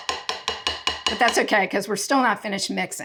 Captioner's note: tapping bowl